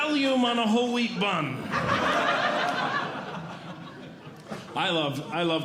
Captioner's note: audience Laughing